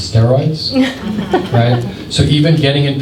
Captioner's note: laughter